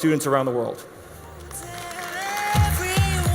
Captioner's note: audience applauds